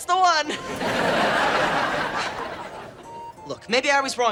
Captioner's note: audience laughing